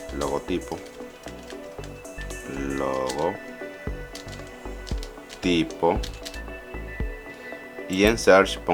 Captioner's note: typing